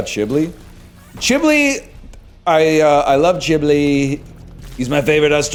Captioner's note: Trump voice